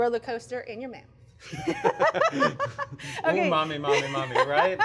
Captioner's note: laughs